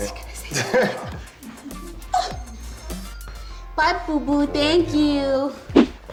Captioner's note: gasps